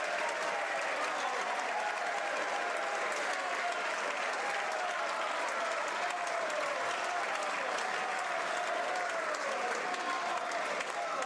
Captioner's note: some Applause